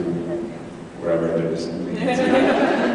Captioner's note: laughs